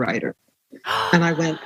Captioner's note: gasps